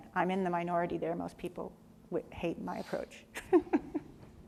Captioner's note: laughs